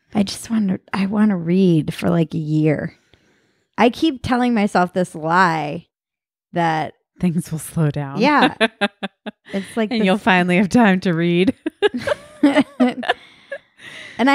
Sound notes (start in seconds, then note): 8.2 laughing; 11.4 laughing